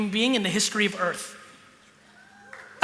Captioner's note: applause